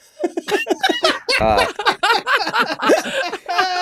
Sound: all laughing

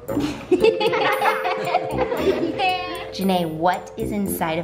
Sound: everyone laughs

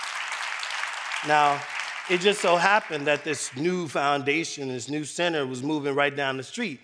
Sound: applause

